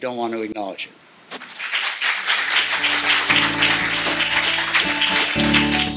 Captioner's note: applause